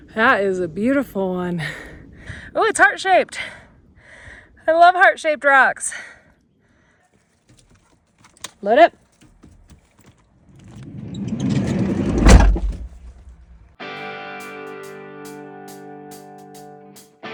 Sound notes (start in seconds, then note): 10.7 door clattering; 13.9 upbeat music